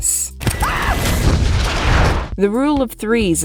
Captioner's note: scream & Explosion